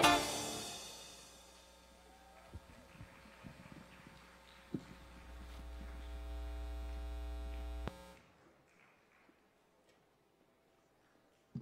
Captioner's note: applause